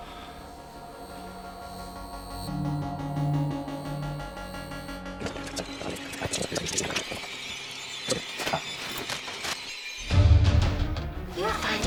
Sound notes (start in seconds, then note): 0.3 suspenseful music; 5.5 suspenseful music; 5.5 tape rustling; 10.4 light dramatic music